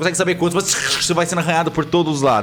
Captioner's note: scratch